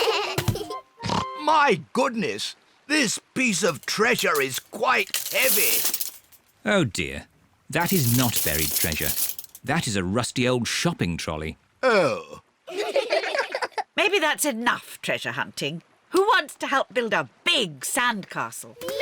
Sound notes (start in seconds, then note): 1.0 oinks; 12.7 all giggle